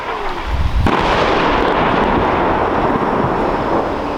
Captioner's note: explosion